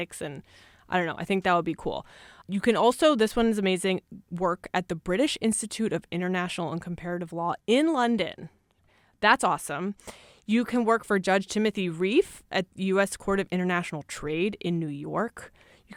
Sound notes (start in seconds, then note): none